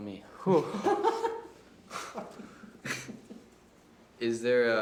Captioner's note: laughs